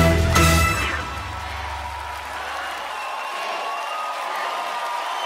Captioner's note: audience cheering